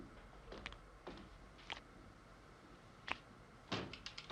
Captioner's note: liquid dripping